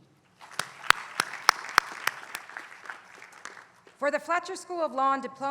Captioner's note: applause